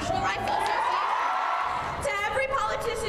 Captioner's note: cheering and applause